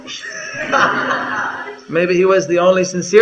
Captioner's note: laughter